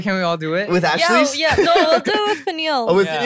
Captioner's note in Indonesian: tertawa